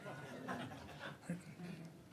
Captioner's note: laughter